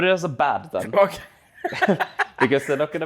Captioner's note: laughs